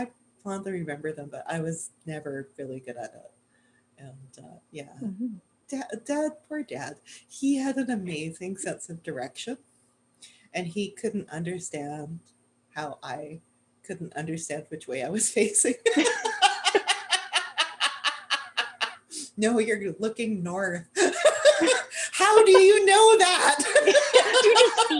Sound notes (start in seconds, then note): 15.8 laughter